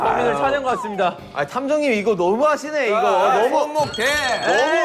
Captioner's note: frustrated